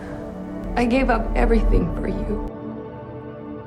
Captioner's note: voiceover